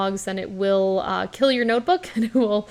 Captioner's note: chuckles